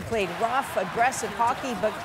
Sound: cheers and Applause

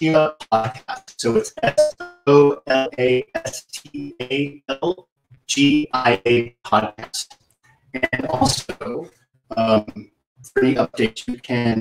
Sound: sound distortion

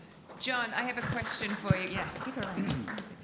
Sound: audience applauding

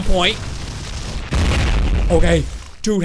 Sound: meteor crashes

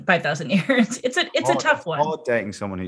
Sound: laughs

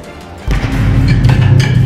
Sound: bwammmm

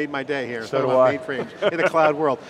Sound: laughs

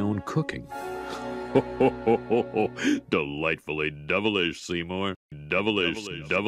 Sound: Santa claus laugh

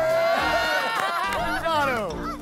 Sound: laughter

